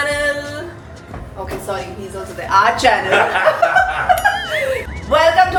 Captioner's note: laughs